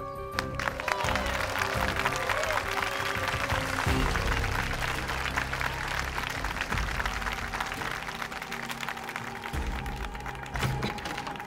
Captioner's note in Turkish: Alkış sesi